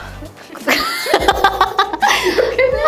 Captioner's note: laughter